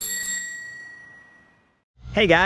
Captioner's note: bell chimes